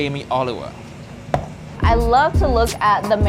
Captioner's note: bowl thudding